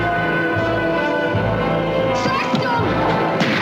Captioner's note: gunshot